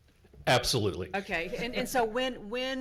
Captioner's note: laughs